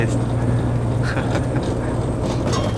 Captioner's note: laughing